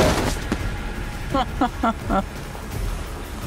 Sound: laughs

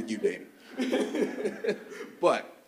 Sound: chuckles

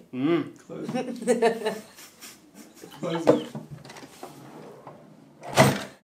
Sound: laughing

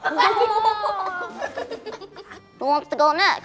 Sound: giggles

